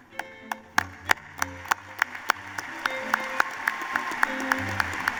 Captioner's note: applause